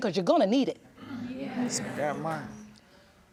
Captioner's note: audience murmurs